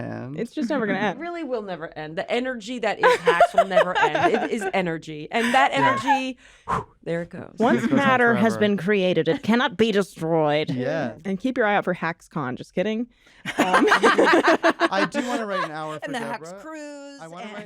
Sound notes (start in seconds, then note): 13.4 laughter